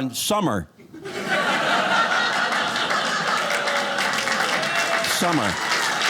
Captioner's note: audience laughing